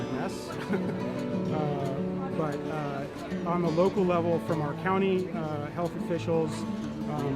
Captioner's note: laugh